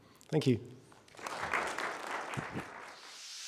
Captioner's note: audience applauding